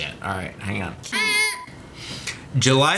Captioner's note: imitates buzzer